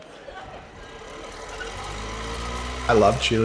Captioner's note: fan blade whirring